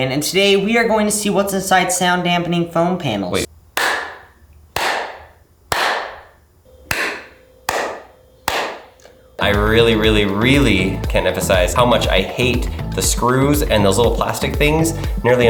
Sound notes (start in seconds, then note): 3.9 loud clapping